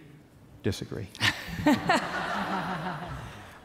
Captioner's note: laughs